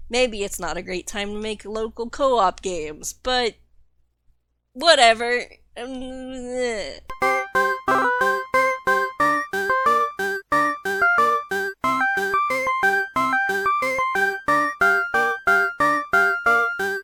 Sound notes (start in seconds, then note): 5.8 incoherent sound of anxiety